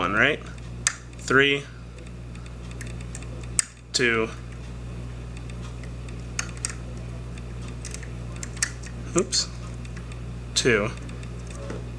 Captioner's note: click